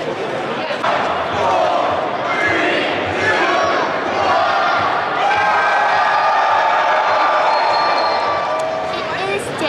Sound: crowd screaming

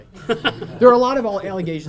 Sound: laughing

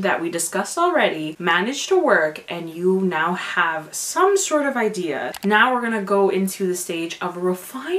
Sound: click noise

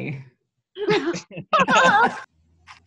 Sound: laughter

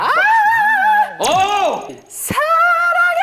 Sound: lead rapper's high frequency shouting

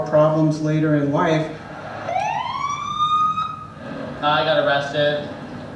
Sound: police siren

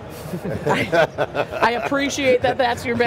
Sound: laughs

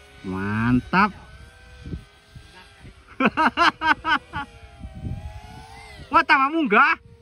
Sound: laughs

